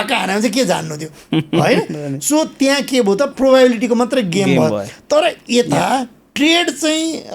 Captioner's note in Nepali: हास्य